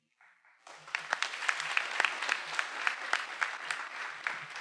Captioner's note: everyone applauding